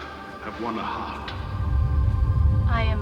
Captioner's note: rumbling